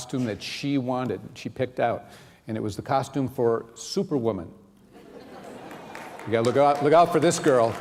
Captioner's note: laughter